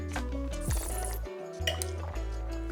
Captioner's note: slurps